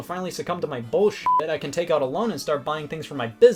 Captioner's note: beep